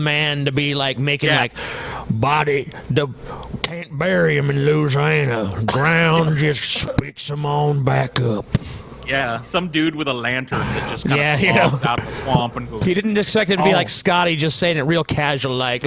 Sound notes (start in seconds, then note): 1.9 imitates how a local might speak